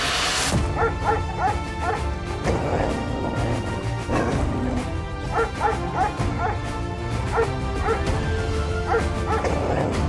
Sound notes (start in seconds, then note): 0.7 Willamina barking; 3.4 upbeat music; 5.2 Willamina barking; 7.5 upbeat music